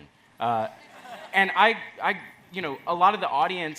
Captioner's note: audience laughs